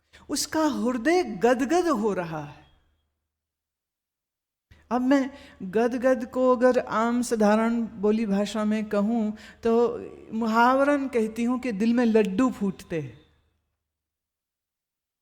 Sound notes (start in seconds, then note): 10.5 Hindi